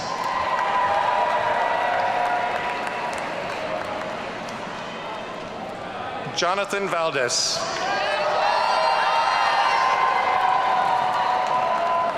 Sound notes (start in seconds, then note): 0.0 audience cheering; 7.8 audience cheering